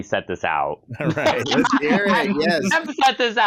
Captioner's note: laughter